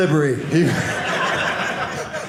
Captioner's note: audience laughing